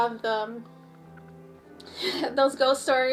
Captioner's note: laughs